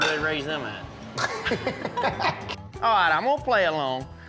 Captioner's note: laughing